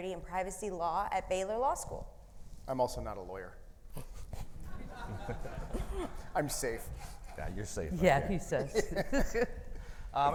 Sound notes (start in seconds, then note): 4.7 audience laughing